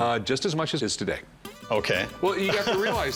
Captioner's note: laughs